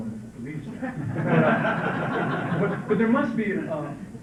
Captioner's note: laughter